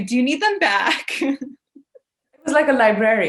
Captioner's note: laughing